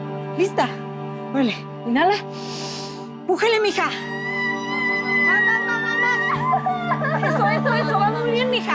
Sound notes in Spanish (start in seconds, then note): 3.7 Gritos